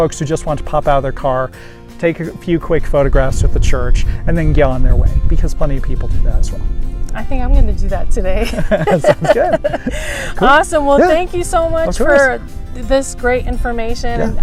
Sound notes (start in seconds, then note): 8.4 laughter